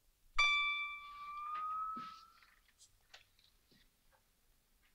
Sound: light tingling

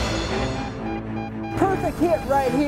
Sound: suspenseful music; beeping

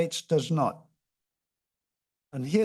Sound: pause

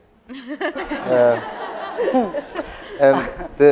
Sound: laughter

